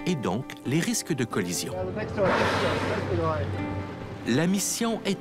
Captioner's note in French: souffle de la baleine